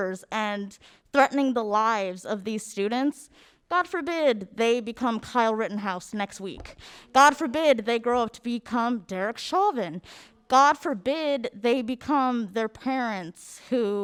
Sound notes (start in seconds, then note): none